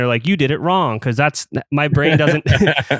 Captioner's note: laughs